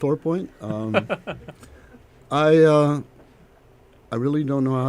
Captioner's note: laughter